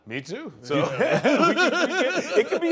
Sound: laughter

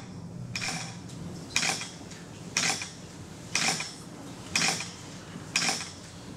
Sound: rhythmic clicking

